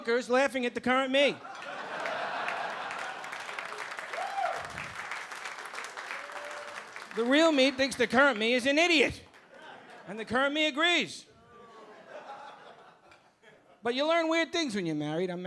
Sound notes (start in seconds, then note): 1.4 audience laughing and clapping